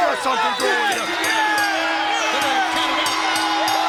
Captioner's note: bell rings